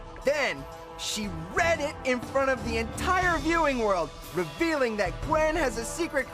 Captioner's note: none